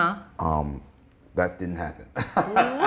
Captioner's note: laughs